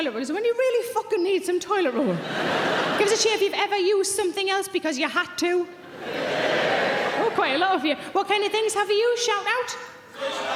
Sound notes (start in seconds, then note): 6.1 audience cheering